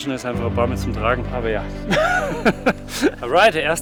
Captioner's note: laughs